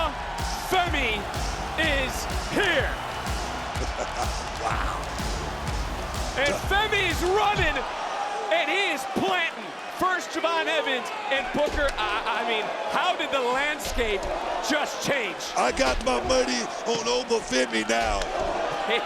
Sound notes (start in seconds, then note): 0.0 tribal music continues; 3.8 Booker chuckles